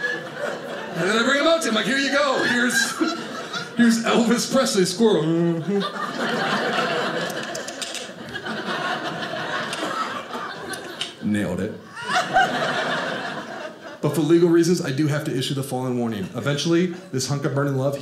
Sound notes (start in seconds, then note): 5.2 audience laughing; 7.5 mimicking squirrel sounds; 11.8 audience laughing